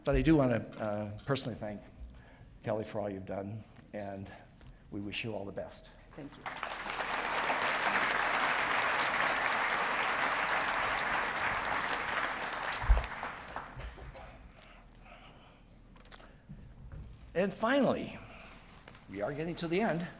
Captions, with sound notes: But I do wanna personally thank Kelly for all you've done, and we wish you all the best. - Thank you. (audience clapping) - And finally, we are getting to the end.